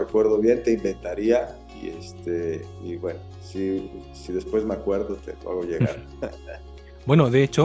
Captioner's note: laughs